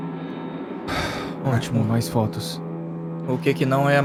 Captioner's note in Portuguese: Suspiro